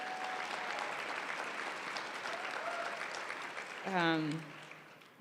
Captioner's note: applause